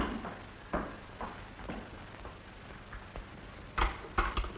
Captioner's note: footstep